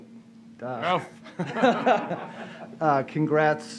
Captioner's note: laughter